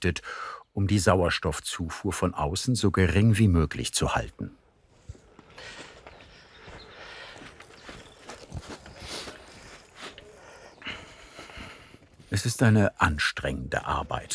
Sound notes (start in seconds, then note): 6.3 he breathes heavily